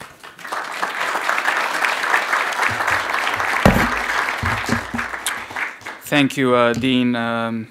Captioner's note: applause